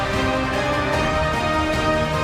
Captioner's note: applause